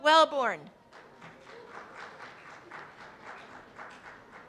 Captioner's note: applause